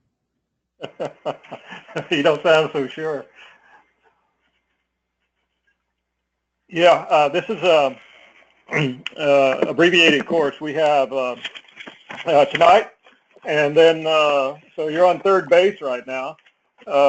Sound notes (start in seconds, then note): 0.8 laugh; 9.5 cough